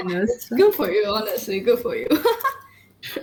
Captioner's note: laughs